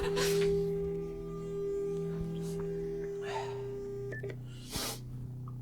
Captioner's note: phone disconnect sound